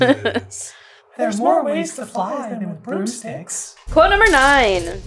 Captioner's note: together, deep and high